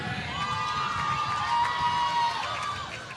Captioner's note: applause